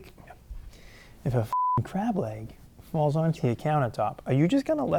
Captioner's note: beep